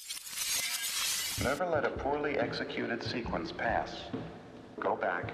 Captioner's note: glass shattering